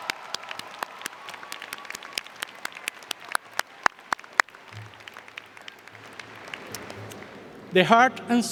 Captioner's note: applause